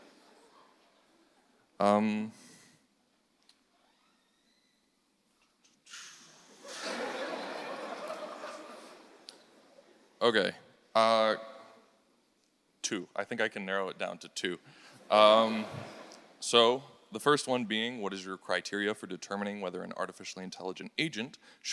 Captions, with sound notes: Do, do, do. (audience laughing) Okay, two, I think I can narrow it down to two. So the first one being, what is your criteria for determining whether an artificially intelligent agent